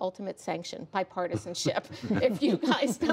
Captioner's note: laughter